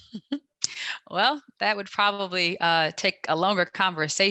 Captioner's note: chuckles